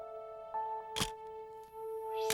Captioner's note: camera shutter click